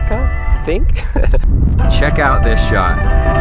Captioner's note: laughs